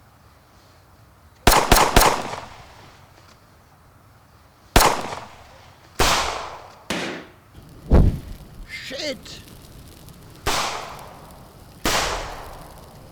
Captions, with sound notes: [Gunshots.] [Gunshot.] Shit! [Gunshots.]